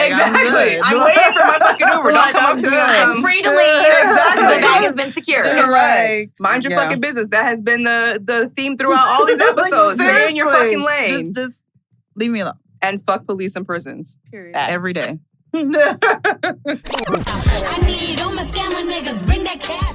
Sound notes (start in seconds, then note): 15.6 laughs